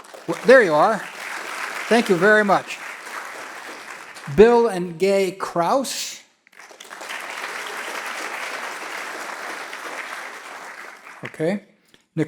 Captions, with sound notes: (audience applauding) There you are. Thank you very much. Bill and Gay Krause. (audience clapping) Okay.